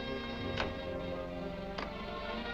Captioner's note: lock clicking